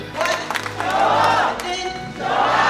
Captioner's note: applause